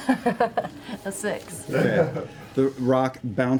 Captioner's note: laughs